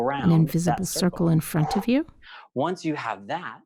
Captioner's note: breathes loudly